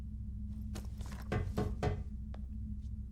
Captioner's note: knock